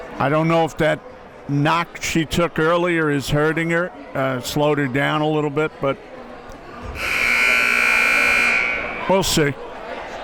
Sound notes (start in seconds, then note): 6.9 buzzer blares